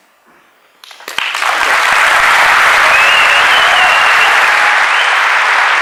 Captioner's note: applause